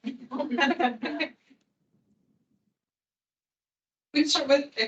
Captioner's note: attendees laughing